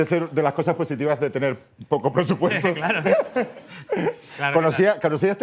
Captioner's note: laughs